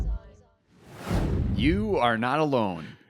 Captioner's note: air whooshing